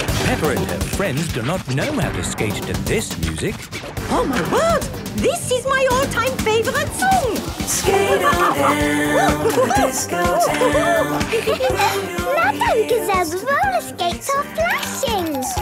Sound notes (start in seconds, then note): 7.7 laughing and exclaiming